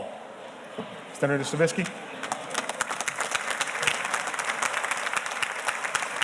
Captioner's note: audience applauding